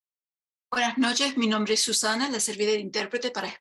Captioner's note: speaking spanish